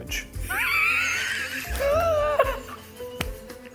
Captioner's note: both laughing